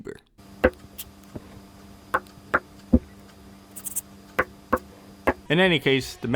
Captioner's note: marker sounds